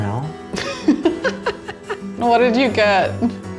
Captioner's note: laughing